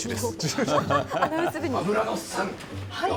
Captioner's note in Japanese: 笑い